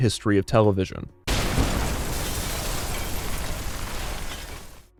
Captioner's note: explosion blasting